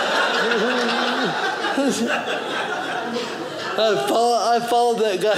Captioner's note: audience laughing